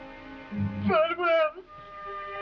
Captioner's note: sobbing